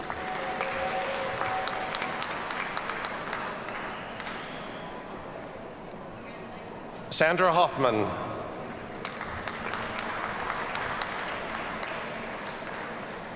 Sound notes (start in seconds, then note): 0.0 audience cheers and applauds; 8.7 audience applauds